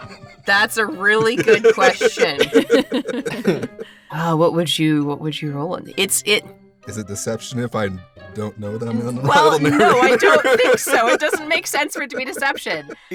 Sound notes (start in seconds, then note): 9.2 laughs